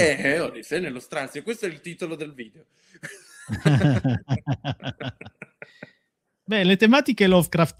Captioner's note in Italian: risate